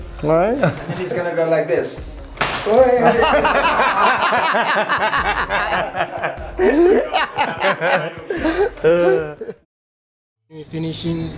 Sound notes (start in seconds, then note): 4.5 everyone laughs again